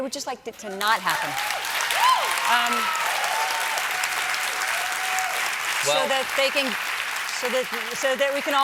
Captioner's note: applause